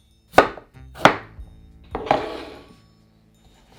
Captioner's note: knife chopping